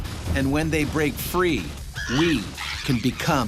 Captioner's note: voiceover